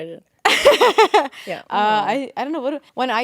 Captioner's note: Courtney laughing